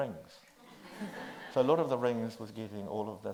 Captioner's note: audience laughs